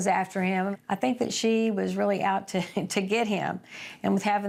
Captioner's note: chuckles